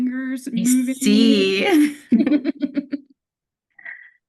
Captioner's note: chuckles